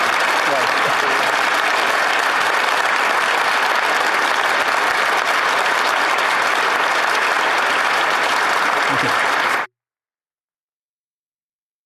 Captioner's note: applause